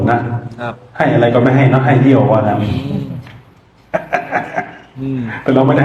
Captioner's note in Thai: เสียงหัวเราะ